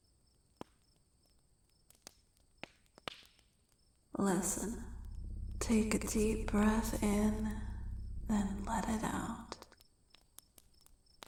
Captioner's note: echoing